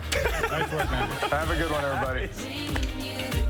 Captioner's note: laughter